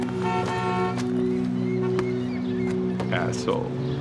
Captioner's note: horn honking